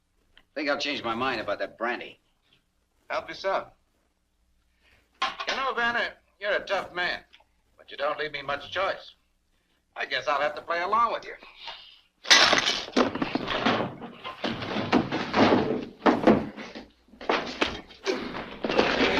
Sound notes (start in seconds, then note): 12.2 glass shatters; 12.3 gun clunks; 17.2 thud